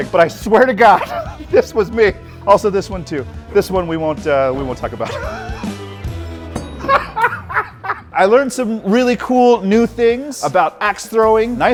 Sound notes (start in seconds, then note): 6.5 laughing; 6.5 star thudding